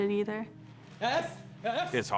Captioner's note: shouting